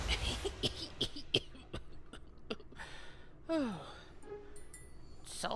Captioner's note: philip coughs and sighs